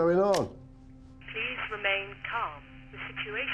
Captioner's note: intercom